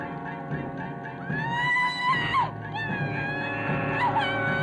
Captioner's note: Helena screaming